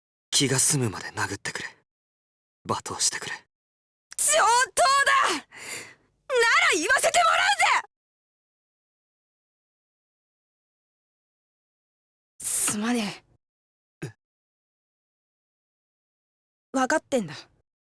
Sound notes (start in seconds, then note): 9.4 silence; 11.3 silence; 15.7 silence